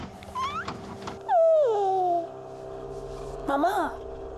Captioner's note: cries